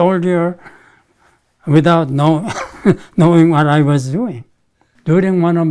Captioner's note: laughs